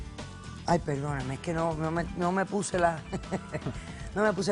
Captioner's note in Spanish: Ríe